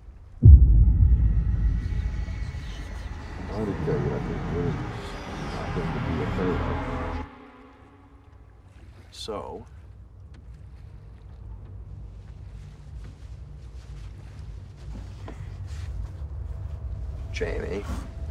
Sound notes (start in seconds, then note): 0.2 intense music; 1.6 ghostly screams